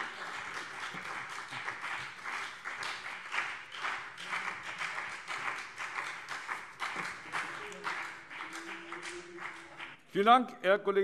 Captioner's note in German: Beifall BÜNDNIS 90/DIE GRÜNEN und CDU